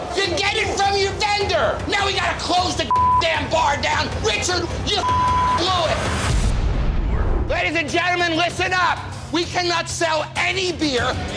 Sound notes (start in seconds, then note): 2.9 beep; 5.0 beep